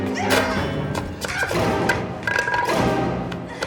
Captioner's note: crash